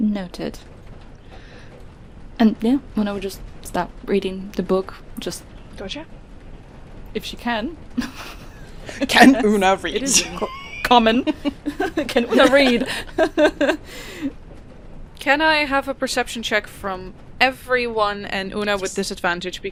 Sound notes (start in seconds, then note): 8.0 laughs